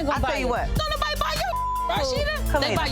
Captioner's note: beep